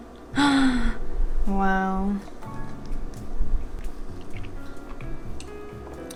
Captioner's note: gasp